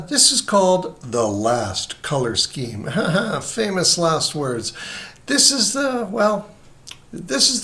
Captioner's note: ha ha